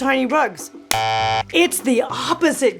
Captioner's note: hands clapping; buzzer buzzing